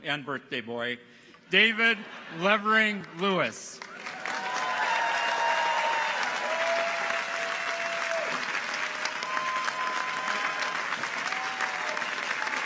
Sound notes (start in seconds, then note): 3.7 audience applauds; 3.8 people cheer